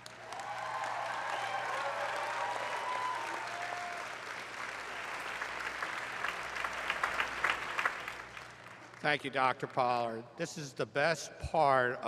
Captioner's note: cheers and applause